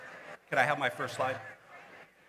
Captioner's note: indistinct background chatter